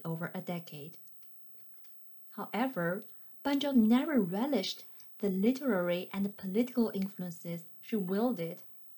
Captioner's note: click